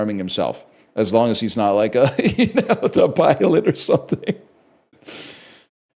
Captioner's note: laughs